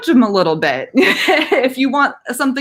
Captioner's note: laughing